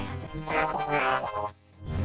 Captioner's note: hollers